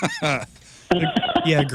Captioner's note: laughing